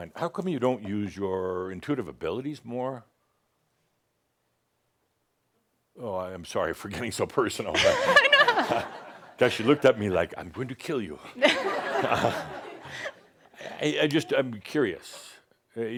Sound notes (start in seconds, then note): 7.7 laughter; 11.3 more chuckles